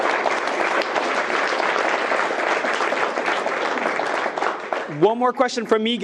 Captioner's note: attendees cheering and clapping